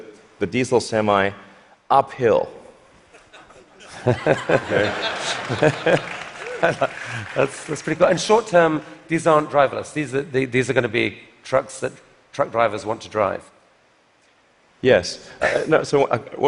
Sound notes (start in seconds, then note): 3.2 laughter; 4.8 applause